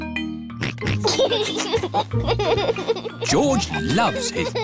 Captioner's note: oinks and laughs